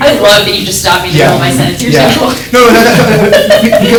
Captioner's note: laughs